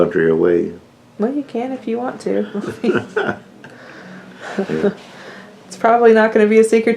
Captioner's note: laughter